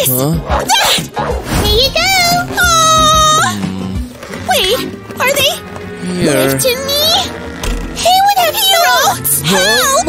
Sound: grunting

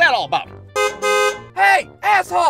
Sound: car horn honks

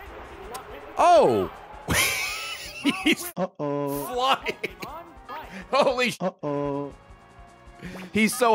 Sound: laughs

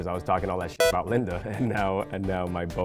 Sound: video game beeps; laughing

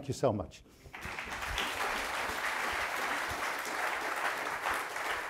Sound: audience applauding

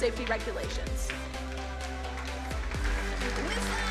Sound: upbeat music; crowd applauding

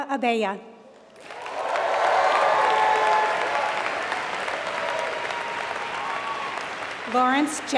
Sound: applause

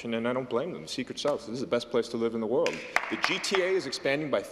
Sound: some Applause

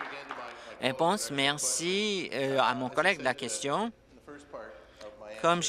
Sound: applause

